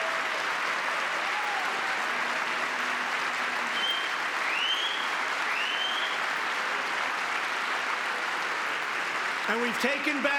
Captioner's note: applause